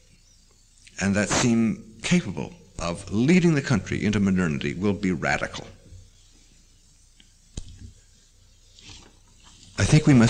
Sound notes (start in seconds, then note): 6.4 pause; 6.4 turns page